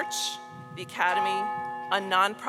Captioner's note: bell tolls